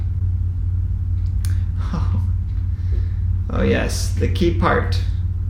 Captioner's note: laugh